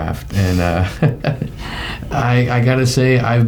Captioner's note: laughing